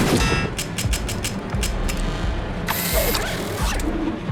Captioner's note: bullets clanging; gun clicking; robot whirring mechanically